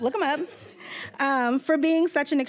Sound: audience laughing

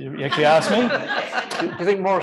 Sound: laughter

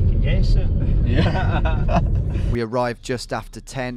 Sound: laughing

